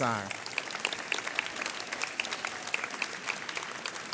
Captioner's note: audience applauds